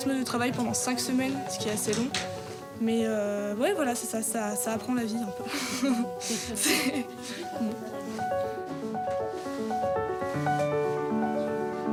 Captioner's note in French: rires